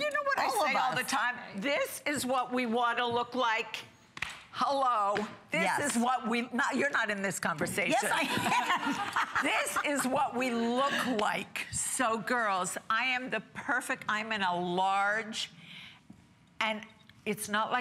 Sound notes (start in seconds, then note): 8.1 laughter